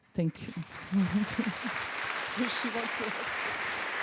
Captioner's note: crowd clapping